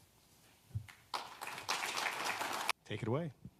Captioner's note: audience applauding